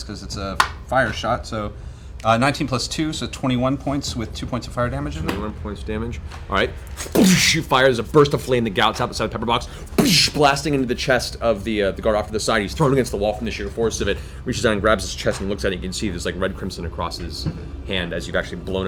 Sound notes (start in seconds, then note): 7.1 gunshot sound; 10.0 impact sound